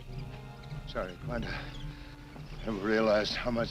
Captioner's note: gasps